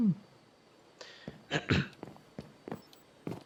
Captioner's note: clears throat